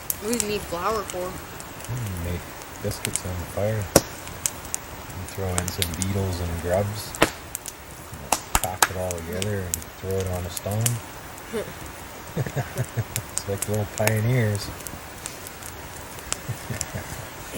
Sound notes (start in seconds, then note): 12.3 laughter; 16.4 laughter